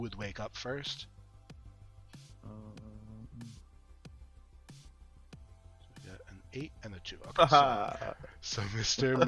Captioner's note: digital Rolling